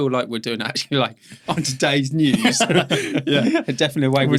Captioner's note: laughing